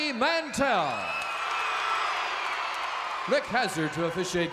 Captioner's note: crowd cheers